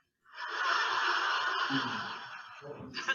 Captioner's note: audience laughing